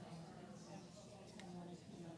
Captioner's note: background chattering